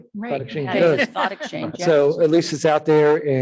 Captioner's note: laughs